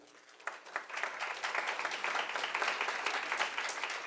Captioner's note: applause